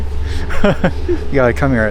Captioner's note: laughs